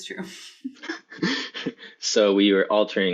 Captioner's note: laughter